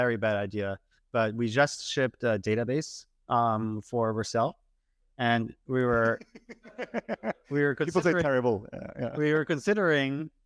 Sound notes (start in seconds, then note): 8.1 laughs